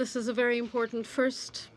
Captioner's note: speaking French